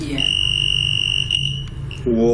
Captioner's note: device ringing